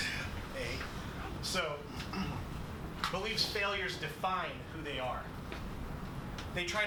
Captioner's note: clears throat